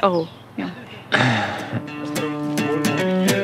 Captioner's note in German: Seufzen